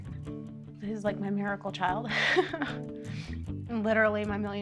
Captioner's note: laughs